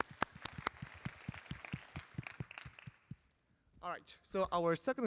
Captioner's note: applause